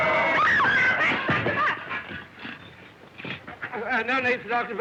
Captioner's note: screams